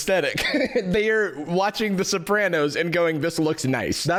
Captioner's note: laughs